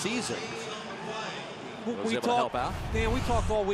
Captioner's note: pa announcement